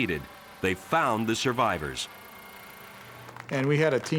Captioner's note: audience applauding